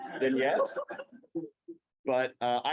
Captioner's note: laughter